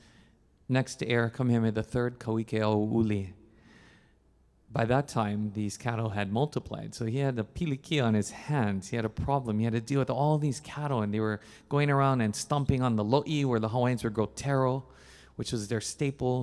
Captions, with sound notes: and then his next heir Kamehameha the Third, Keaweaweʻulao. By that time these cattle had multiplied, so he had the (speaking in Hawaiian) on his hands. He had a problem he had to deal with all these cattle, and they were going around and stomping on the loe where the Hawaiians would grow taro